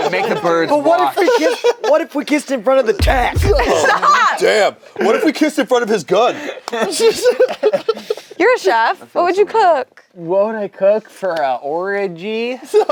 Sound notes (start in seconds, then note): 6.8 group laughs